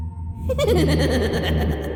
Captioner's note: creepy laugh